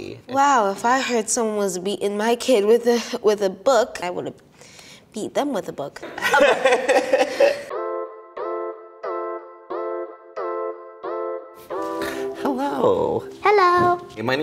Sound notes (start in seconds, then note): 6.2 laughing; 7.6 light music